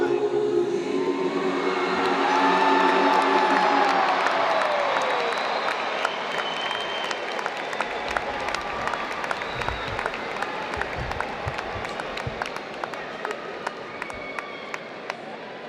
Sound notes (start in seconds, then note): 1.3 cheering; 2.5 applause